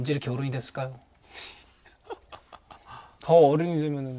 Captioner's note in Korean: 으른 웃음